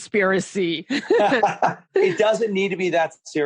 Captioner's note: laughing